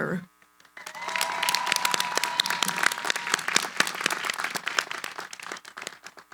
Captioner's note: cheering, applause